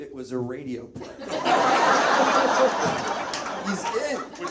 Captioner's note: audience laughs